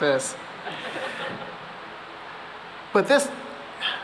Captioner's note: laughter